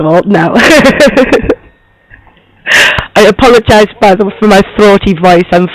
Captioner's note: laughs